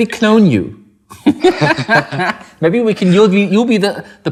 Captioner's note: laughing